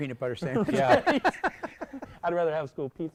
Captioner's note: laughter